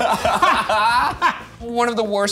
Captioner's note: laughing